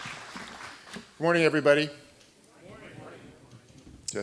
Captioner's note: applause